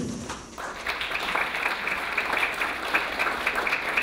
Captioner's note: clapping